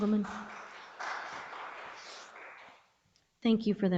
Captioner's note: audience applauds